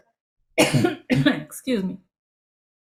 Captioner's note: coughs